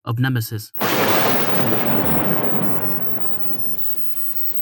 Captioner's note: lightning crashes as a downpour envelopes the house